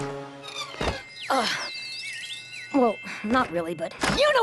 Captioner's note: tweet!